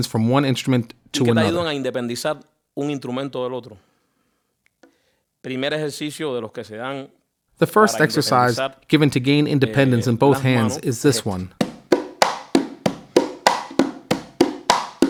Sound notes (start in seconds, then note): 2.4 speaking in foreign language; 11.6 slow conga music